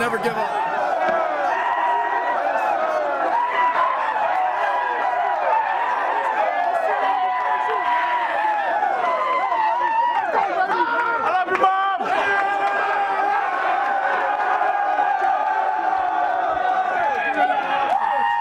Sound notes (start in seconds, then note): 1.9 cheering; 13.2 cheering